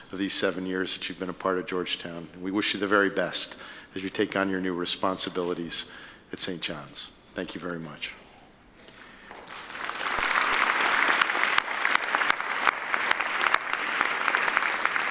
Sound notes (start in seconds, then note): 9.2 applauding